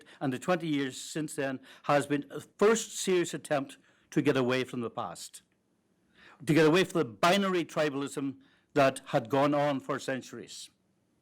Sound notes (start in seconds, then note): none